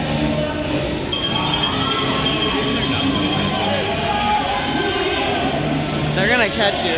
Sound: bell rings. Crowd cheering

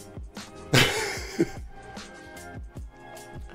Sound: laughs

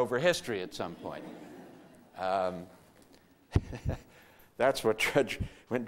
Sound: audience laughter

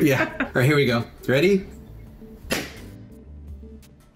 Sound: chuckles; pop

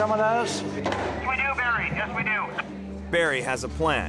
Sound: man Over Radio

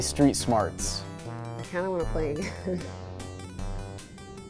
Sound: laughs

